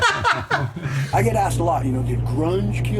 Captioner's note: laughing